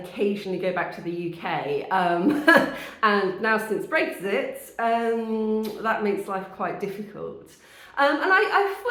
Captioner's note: laughing